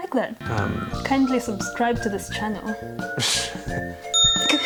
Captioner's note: ding